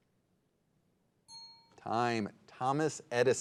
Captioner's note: bell rings